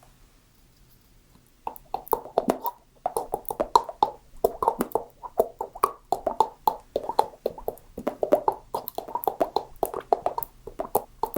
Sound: mouth sounds

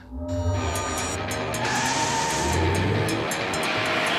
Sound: tyres screech

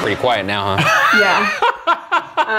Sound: laughs

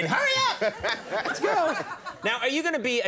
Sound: laughing

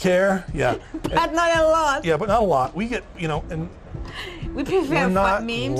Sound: laughs

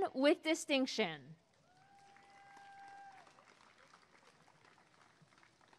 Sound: applause and cheering

